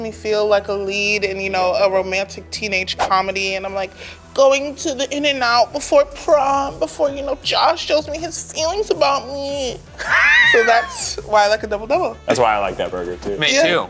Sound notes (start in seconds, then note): 10.0 laughs